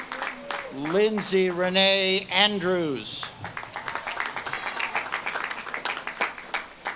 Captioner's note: audience claps and cheers